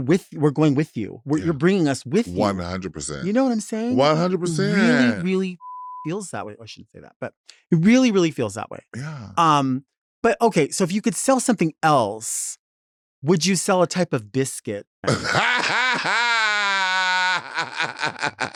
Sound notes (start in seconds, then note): 5.6 beeps; 15.0 Latrice laughing